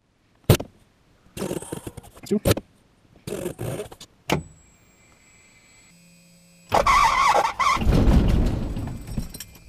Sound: engine starts and immediately quits

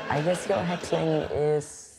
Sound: audience laughter

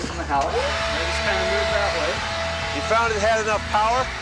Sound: blower overpowers voice

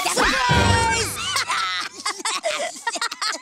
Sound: laughing

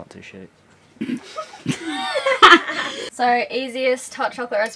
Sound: girls laughing

